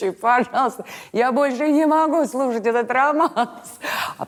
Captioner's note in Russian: смеясь